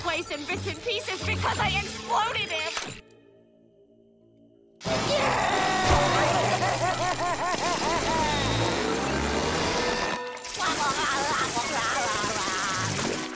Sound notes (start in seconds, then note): 4.9 sobbing; 10.5 laughing